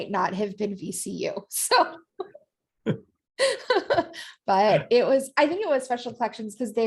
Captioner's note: laughter